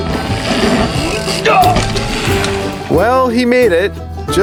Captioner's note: man groans